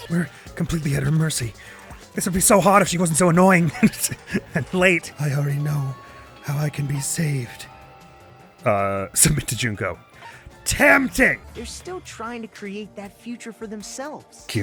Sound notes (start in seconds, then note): 3.6 chuckles